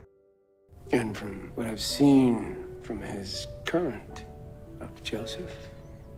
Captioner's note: voiceover